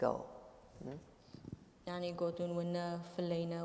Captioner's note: speaking kurdish